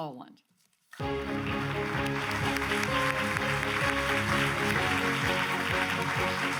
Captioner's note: audience applauds; grand music